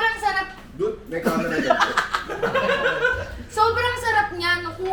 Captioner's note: laughter